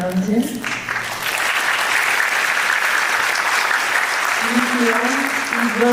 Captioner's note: applause